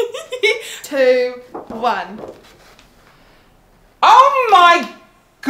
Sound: giggles; material flapping

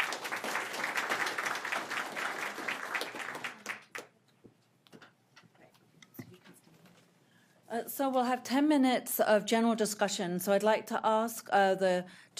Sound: applause

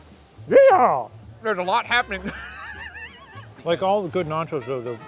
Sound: laughing

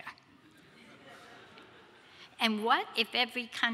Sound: audience laughs

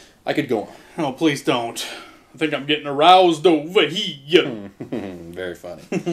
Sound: in a New York accent; laughing

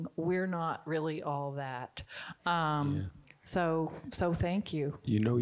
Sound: none

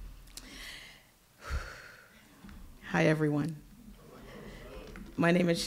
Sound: exhales deeply

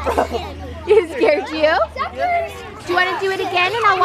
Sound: laughs

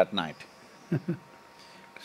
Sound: Manish Laughs

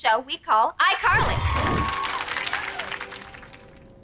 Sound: audience cheering

